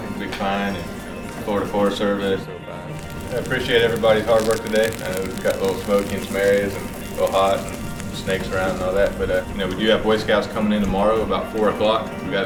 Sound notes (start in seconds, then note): 0.0 background music; 3.4 sound of crackling fire and background music